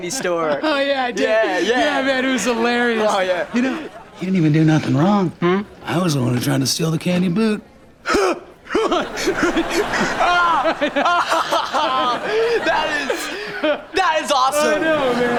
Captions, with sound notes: - Oh, yeah, I did. - Yeah, yeah. - Yeah, man, it was hilarious. - Oh, yeah. You know, he didn't even do nothing wrong. I was the one trying to steal the candy boot. Ha! [laughing] - That is... That is awesome. - I know man.